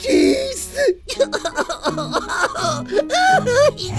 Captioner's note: sobbing